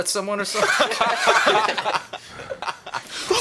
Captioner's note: laughter